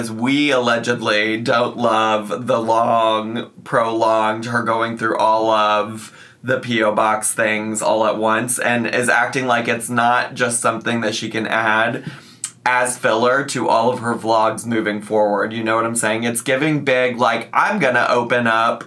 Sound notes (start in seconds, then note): none